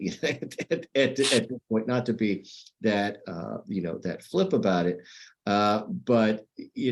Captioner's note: laughter